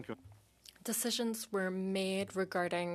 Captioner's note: speaking in French